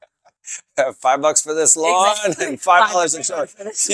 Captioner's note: chuckles